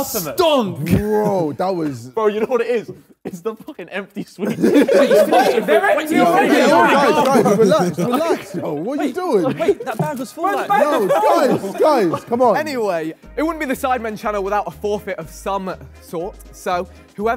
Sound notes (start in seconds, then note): 5.9 Sidemen laugh